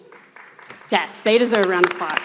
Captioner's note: everyone applauds